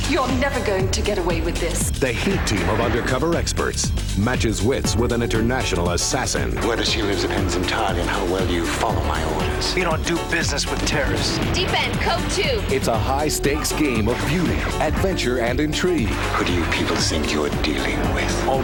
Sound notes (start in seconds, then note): 2.1 voiceover; 13.1 voiceover